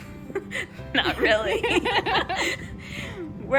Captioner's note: nervous laughter because we know we're a little crazy